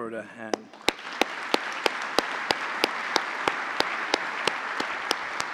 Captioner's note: applause